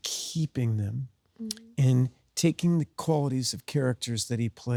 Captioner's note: Sydney hums